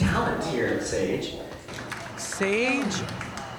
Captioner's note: audience clapping